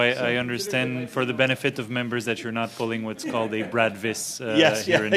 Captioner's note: laughter